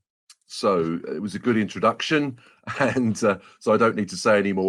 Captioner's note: laughs